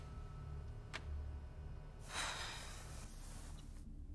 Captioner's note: Alice sighs